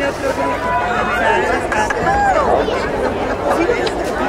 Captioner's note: crowd cheering